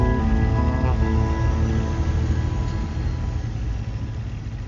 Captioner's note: vehicle thrumming